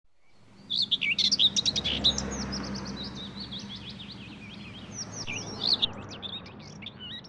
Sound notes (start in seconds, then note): 0.2 birds chirping